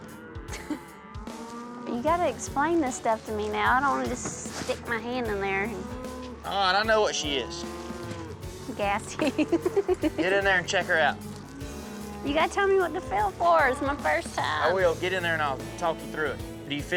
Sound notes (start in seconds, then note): 0.4 chuckles; 8.8 laughs